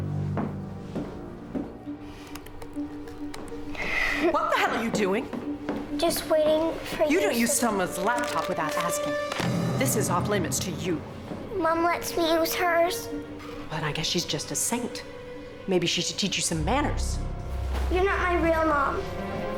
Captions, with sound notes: [TYPING] WHAT THE HELL ARE YOU DOING? JUST WAITING FOR... YOU DON'T USE SOMEONE'S LAPTOP WITHOUT ASKING. THIS IS OFF LIMITS TO YOU. MOM LETS ME USE HERS. WELL, I GUESS SHE'S JUST A SAINT. MAYBE SHE SHOULD TEACH YOU SOME MANNERS. YOU'RE NOT MY REAL MOM.